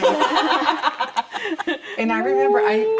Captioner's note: laughter